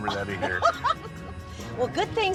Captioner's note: laughs